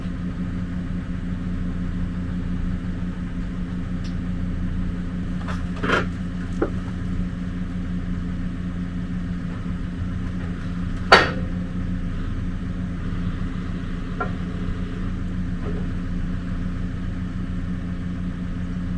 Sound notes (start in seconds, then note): 0.2 engine running; 5.3 log creaking; 11.0 metal clanging; 15.2 engine running continues